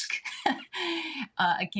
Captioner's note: chuckling